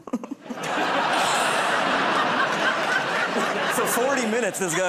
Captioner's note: laughter